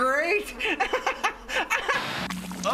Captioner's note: continues laughing